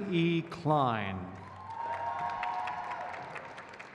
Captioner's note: crowd claps